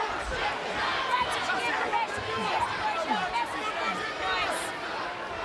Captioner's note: overlapping chatter